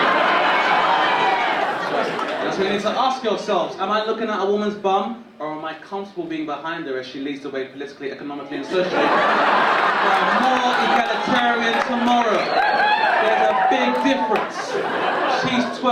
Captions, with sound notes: (audience laughing) So you need to ask yourselves, am I looking at a woman's bum or am I comfortable being behind her as she leads the way politically, economically, and socially for a more egalitarian tomorrow. (audience cheering) There's a big difference.